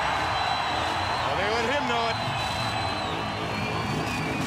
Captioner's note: crowd cheering